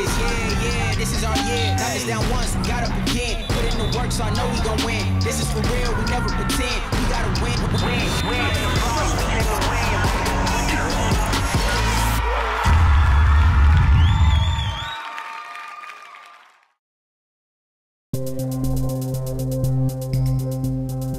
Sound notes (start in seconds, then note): 11.9 crowd cheers; 18.2 serene music